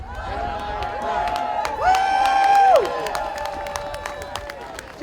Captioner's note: audience cheering